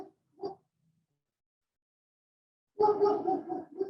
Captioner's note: dog barking